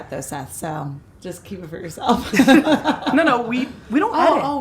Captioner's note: laughs